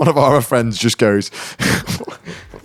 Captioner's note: laughing